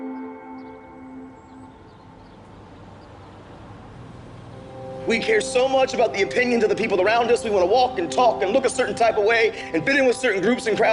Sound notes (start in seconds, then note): 4.2 birds chirping